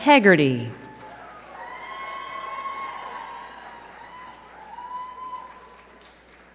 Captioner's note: crowd cheering and clapping